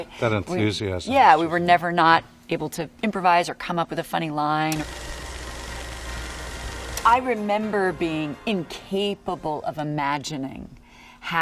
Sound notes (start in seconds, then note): 4.4 projector running